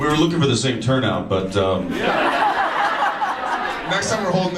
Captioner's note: audience laughs